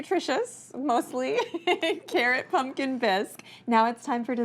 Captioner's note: laughs